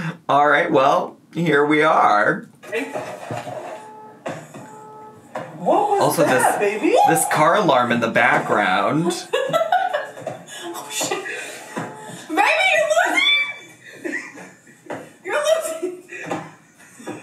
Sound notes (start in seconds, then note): 2.7 car alarm blaring; 9.2 giggles